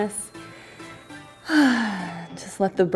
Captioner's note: sighing